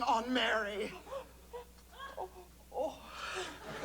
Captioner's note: gasping